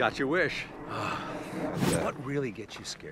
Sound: sighs

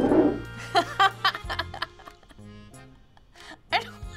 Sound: chuckling

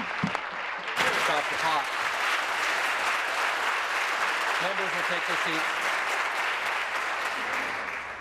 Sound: applause

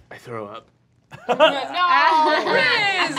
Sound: laughing

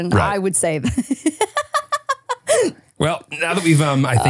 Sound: laughing

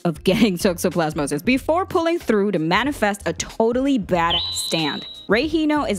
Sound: beep

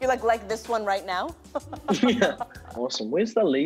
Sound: chuckles

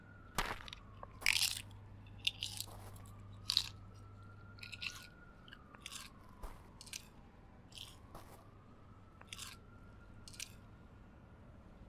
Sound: eating noises

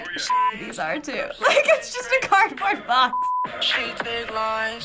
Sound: laughs

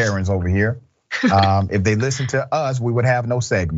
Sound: laugh

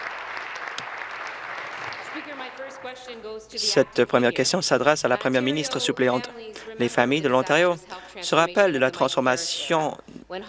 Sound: applause

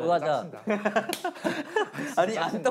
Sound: laughing

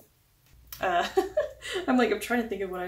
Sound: laugh

